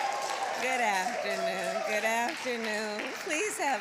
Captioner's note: applause